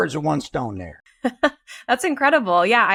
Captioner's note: laughs